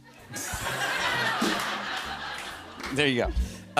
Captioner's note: laughter